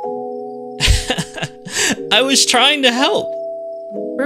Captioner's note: chuckles